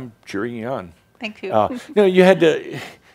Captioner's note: she giggles